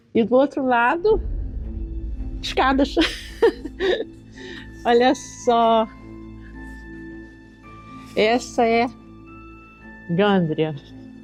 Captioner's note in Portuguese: risos